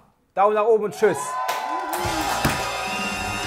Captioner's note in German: Jubel, Applaus